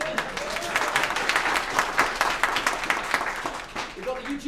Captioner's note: applause